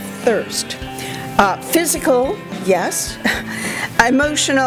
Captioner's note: chuckles